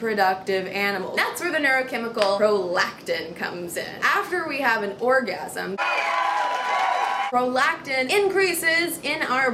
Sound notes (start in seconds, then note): 5.8 cheering sounds